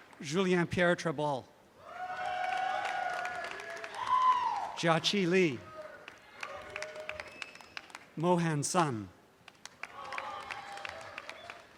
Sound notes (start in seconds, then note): 5.7 audience applause continues